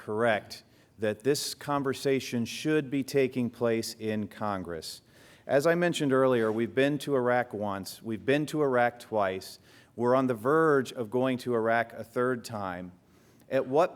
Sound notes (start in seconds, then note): none